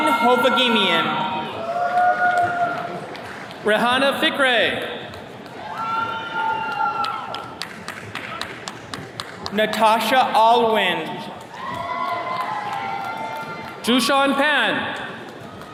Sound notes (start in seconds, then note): 1.8 attendees cheering; 5.0 attendees cheers and claps; 11.4 attendees cheering